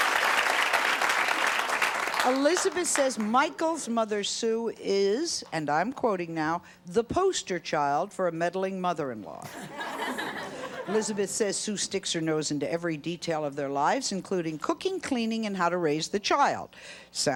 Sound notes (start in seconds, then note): 9.5 audience laughing